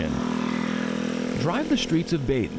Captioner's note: motorcycle engine revving